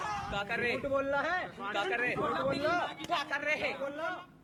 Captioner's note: speaking hindi